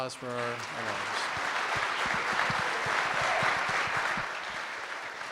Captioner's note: audience applauding